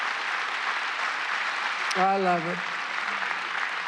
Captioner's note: cheers and applause